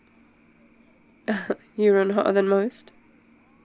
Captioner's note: laughs